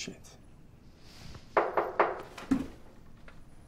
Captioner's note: knocking on the door